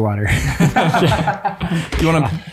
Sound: all laughing

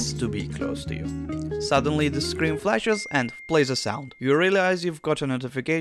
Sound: ding

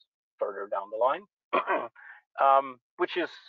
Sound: clears throat

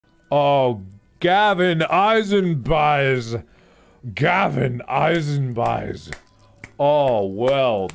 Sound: clapping

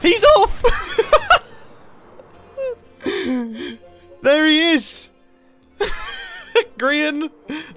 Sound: laughs

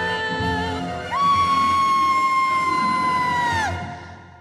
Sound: screamed

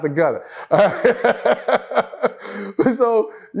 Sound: laughs

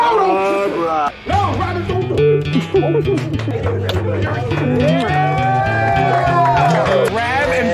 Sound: cheering clapping and acoustic guitar

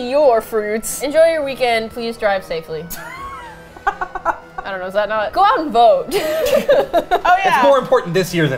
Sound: laughs; all laugh

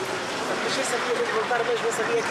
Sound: Portuguese spoken audio

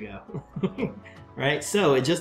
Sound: chuckles

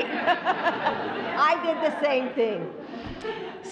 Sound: laughter

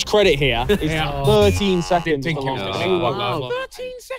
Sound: contestants muttering

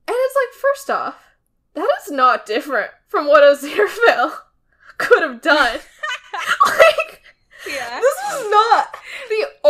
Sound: laughing

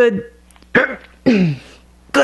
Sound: choke

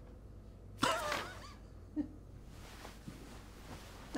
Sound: Cary laughs

